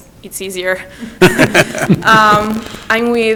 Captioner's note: everyone laughs